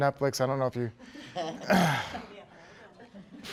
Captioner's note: laughter